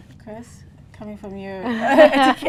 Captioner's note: laughing